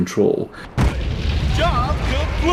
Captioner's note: explosion erupts